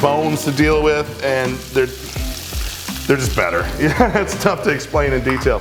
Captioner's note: laughs